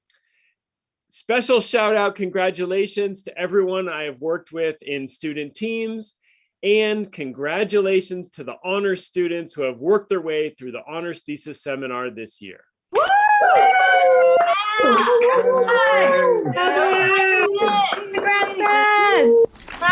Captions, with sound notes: Special shout-out congratulations to everyone I have worked with in student teams and congratulations to the honors students who have worked their way through the honors thesis seminar this year. (staff cheering) Go Blue! Graduates! Congrats, class!